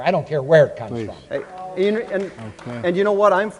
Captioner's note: audience begins to applaud